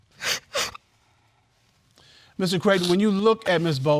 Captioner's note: crying